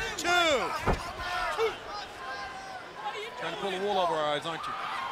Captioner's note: crowd chatter